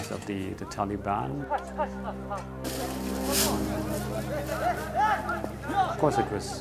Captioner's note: people speaking in foreign language